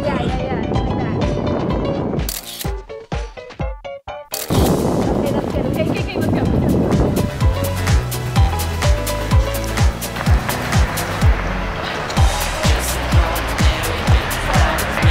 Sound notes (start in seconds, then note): 2.2 camera shutter clicks; 8.3 upbeat piano music